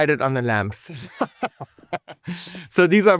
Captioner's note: laughing